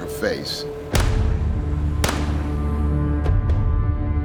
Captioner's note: gun firing